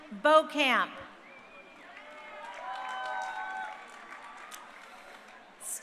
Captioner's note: crowd cheering